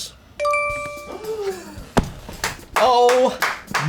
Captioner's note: gasps